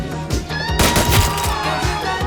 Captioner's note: gunshots blasting